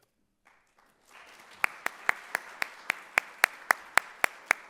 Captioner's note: audience clapping